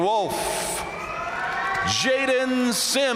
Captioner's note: audience cheering and applauding